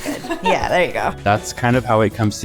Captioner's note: laughing